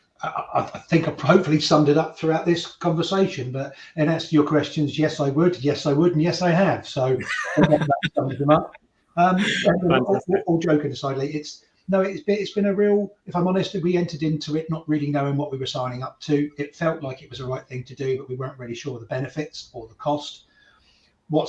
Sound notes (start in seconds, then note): 7.1 laughs